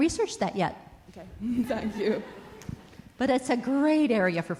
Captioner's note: laughter